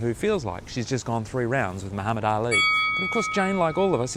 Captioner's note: bell rings